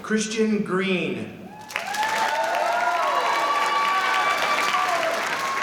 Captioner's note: applause